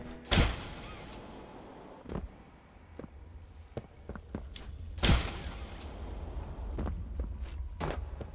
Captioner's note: footsteps